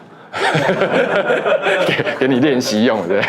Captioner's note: laughs